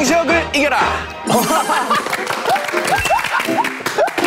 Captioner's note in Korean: 물개박수